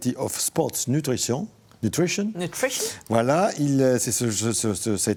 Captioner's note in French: none